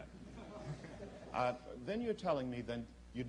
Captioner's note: laughter